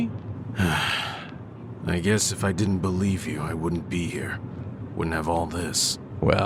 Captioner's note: sighing